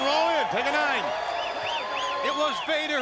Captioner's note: crowd clamoring